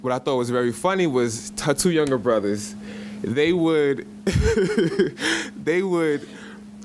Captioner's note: laughs